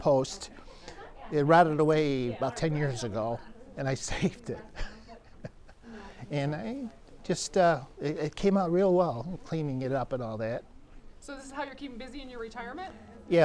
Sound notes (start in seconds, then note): 4.7 laughs